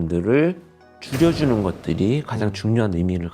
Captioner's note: emphasizing sound effect